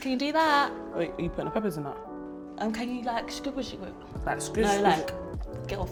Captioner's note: makes rinsing sound